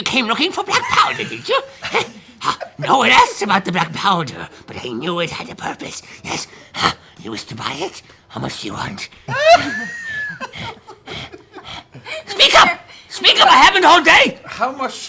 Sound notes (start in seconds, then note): 9.2 giggling; 12.8 pants heavily